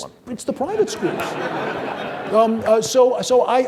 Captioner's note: audience laughing